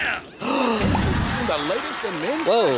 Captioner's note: gasps